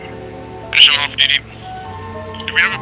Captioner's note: on the radio